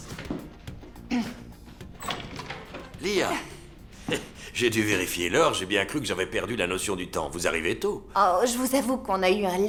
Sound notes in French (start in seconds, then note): 1.1 s'éclaircit la gorge